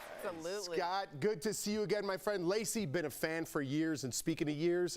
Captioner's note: applause